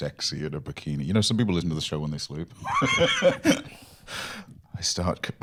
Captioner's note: laughs